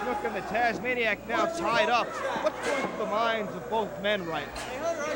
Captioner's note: crowd chatter